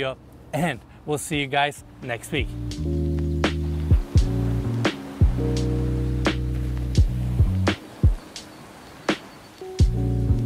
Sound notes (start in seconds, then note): 2.1 jazz music; 5.1 waves crashing